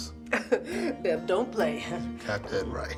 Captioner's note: chuckles